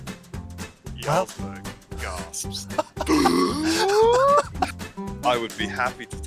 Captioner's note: audible gasp